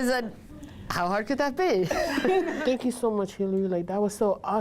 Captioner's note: laughter